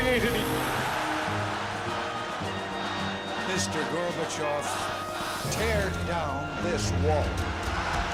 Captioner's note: applause